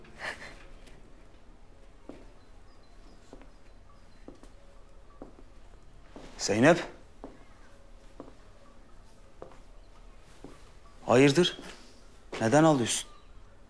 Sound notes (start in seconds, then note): 0.1 crying; 3.9 footsteps; 7.2 footsteps